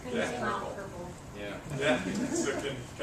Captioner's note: laugh